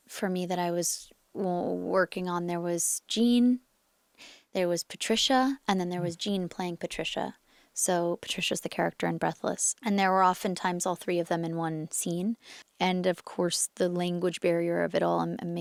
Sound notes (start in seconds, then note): none